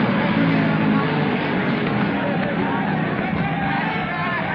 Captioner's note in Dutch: paniekerig geklets